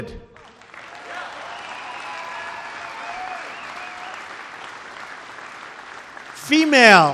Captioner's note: applause